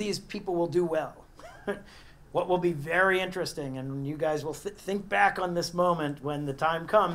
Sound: laugh

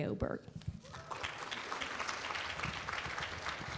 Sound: applause

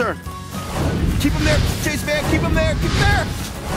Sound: exploding

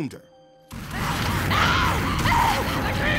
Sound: screaming

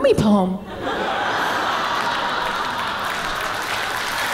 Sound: audience laughing; applause

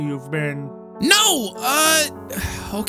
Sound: sigh

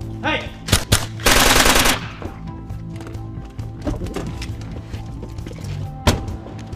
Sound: gun firing

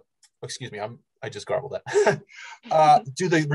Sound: laughs

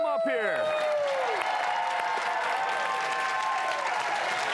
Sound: applause

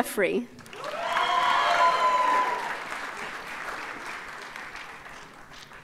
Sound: audience cheers and applauds

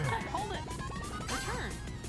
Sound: laugh

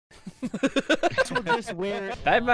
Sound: laughter

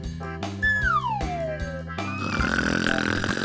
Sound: slide whistle descending; snoring

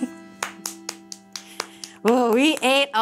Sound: hands clapping

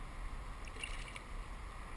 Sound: splash

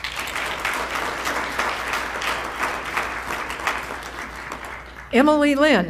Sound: applause

